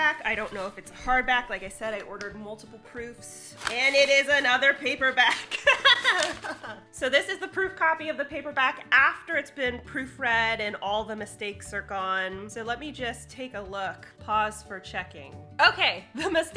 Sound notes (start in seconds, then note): 5.4 laughs